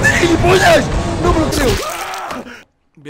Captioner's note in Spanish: Grito de dolor